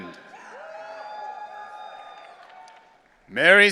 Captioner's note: audience cheering